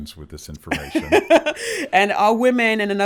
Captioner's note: laughs